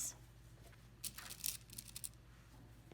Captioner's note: pins rattle